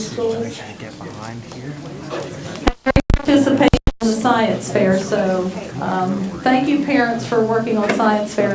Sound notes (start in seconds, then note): 4.0 crowd talking indistinctly